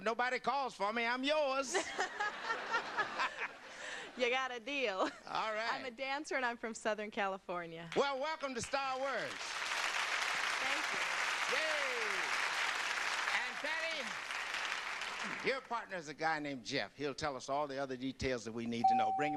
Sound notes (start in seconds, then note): 1.8 laughs; 4.4 audience laughter; 8.7 audience applause